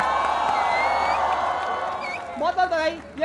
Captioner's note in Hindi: चियरिंग